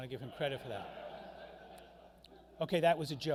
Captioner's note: crowd laughing